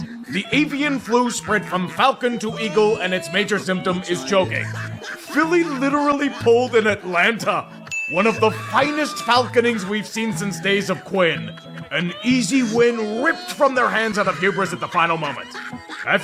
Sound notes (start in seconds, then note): 4.4 continuous wheezing in the background